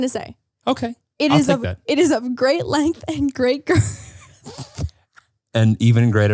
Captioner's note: laughs